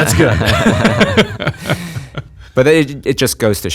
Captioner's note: laughs